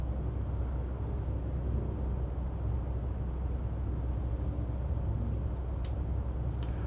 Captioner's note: air conditioner humming continues